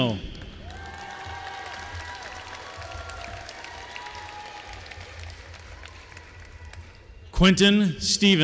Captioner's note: applause